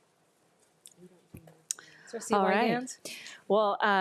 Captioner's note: board member speaking faintly